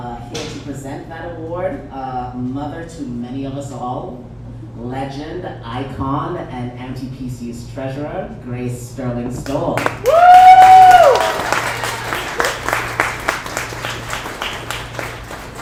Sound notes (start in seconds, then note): 9.8 audience applauds